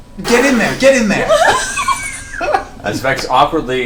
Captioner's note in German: Gelächter